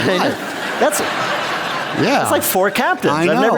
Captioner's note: laughter